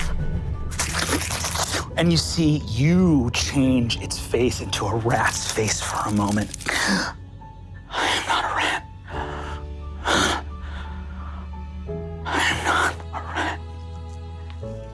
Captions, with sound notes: (imitates rat chewing) - And you see you change its face into a rat's face for a moment. (gasps) I am not a rat. (breaths heavily) I am not a rat.